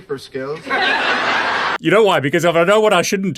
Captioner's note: audience laughing